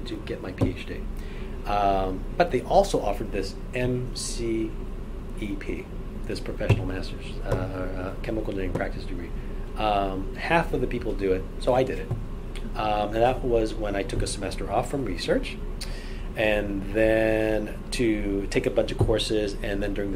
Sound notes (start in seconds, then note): none